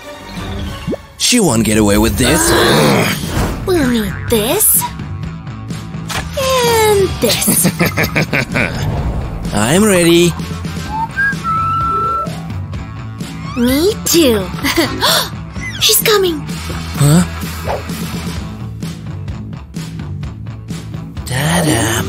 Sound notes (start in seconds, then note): 14.5 whistles